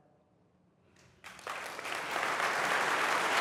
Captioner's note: applause